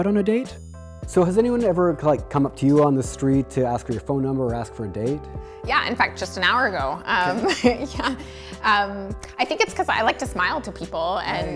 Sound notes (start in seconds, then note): 7.2 laughs